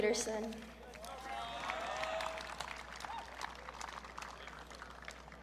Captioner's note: audience cheering